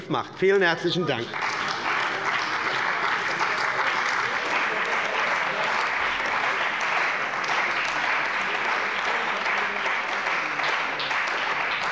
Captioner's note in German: Beifall bei der CDU und dem BÜNDNIS 90/DIE GRÜNEN